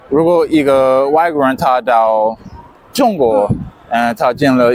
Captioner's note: speaking Chinese